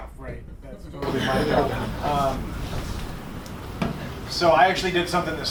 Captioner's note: laughter